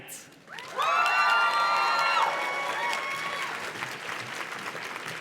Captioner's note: audience cheers and claps